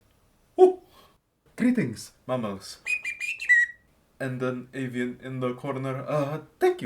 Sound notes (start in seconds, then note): 2.8 library cannary chirping